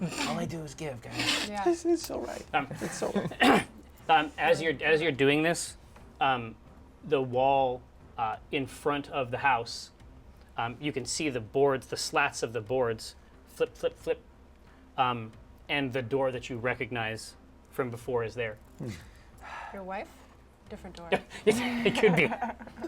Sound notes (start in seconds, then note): 0.3 whispers; 18.8 sighs